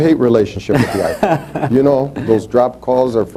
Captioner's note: laughs